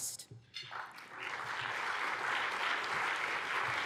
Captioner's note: applause